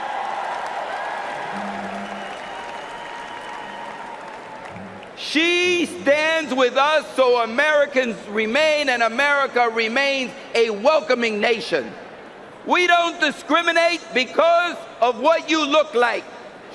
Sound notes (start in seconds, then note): 5.0 cheering and applause